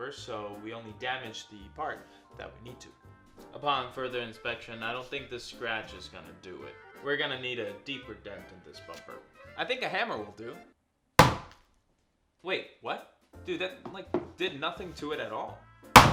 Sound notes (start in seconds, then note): 11.2 hummer bumping